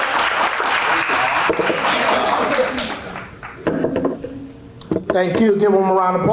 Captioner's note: applause